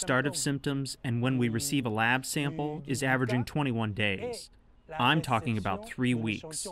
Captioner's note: speaking french